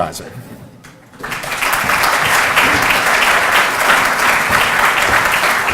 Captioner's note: audience applauds